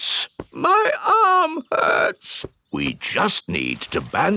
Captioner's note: in teddy's voice; in normal voice